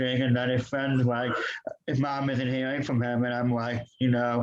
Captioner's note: laughs